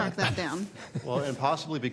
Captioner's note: laughter